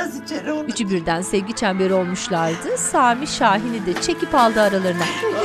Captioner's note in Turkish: Fonda alkış ve çığlık sesleri